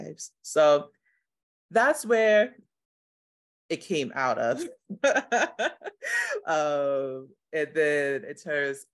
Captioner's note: laughter